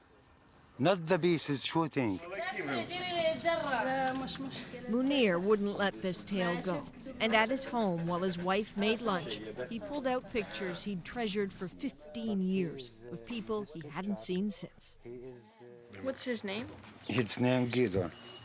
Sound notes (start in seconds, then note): 3.7 speaking alternate language